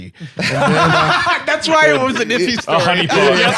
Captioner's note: laughs